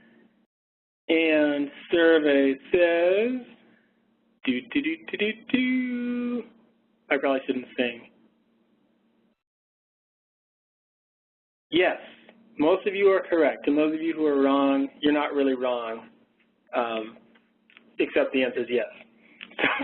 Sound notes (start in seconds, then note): 4.5 upbeat humming; 19.5 laughter